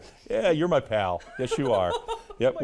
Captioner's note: laughing